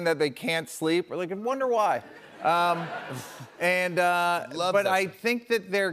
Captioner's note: laughter